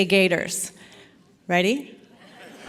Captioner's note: laughter